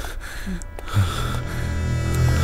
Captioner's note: Vishwas exhales